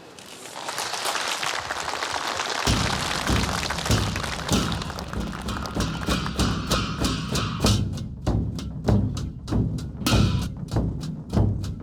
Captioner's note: applause, drums playing